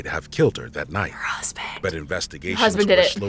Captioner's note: whispers